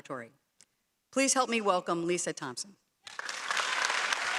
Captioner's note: applause